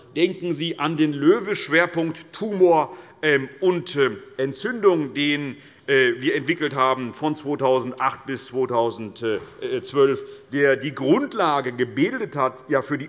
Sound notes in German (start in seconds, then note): none